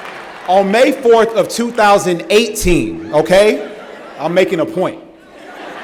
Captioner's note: laughter